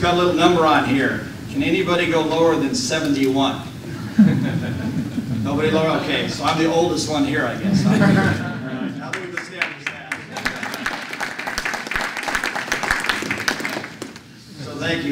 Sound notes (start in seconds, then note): 7.6 laughter; 9.1 applause